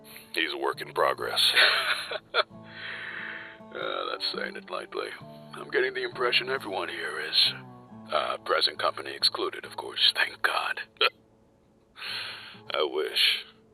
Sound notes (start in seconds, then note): 1.5 laughs